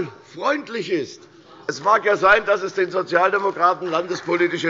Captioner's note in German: Beifall bei der CDU – Zurufe von der SPD